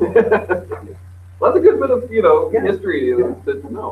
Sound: laughs

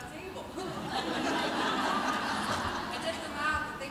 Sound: audience laughs

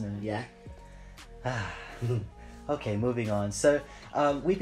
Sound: sighs

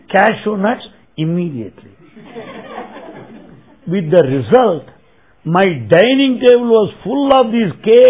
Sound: laughter

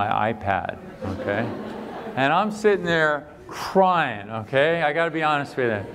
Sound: laughter

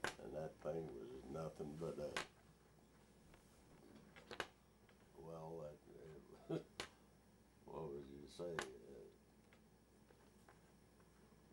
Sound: chuckles

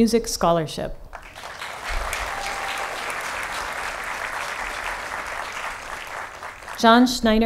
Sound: applause

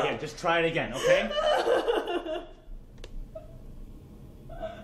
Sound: crying

